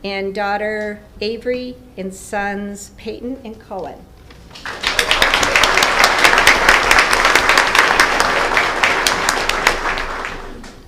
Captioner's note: applause